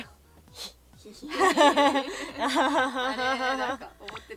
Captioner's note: laughing loudly